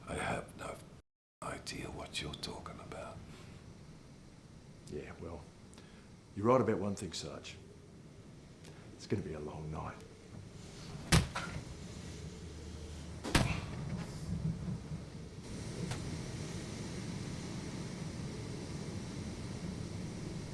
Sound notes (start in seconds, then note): 11.0 phone book thudding